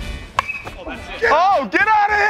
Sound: metal bat clanks

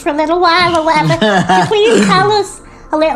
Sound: laughs

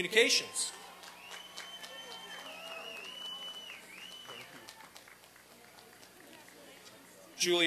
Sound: applause and cheering

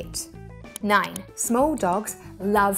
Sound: graphics clicking

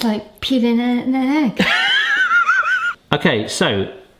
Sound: laughs

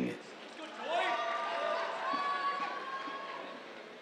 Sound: cheers, applause

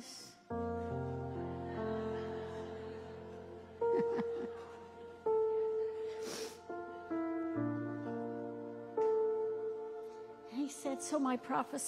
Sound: audience laughing

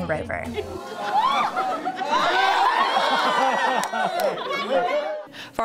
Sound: laughter, cheers

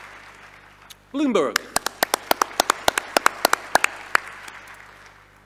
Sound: audience applauding

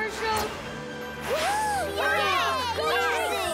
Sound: cheering

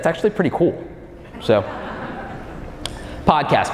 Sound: audience chuckling

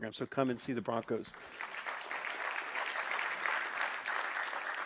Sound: clapping

